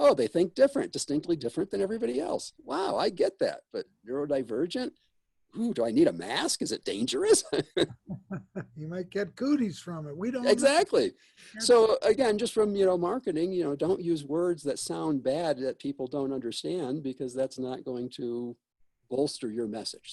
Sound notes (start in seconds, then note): 7.4 laughs